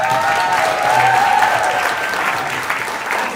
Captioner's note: applause